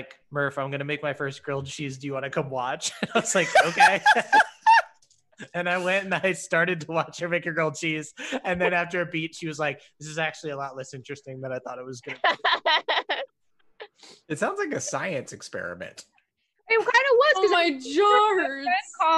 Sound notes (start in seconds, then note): 2.8 laugh; 12.0 laughs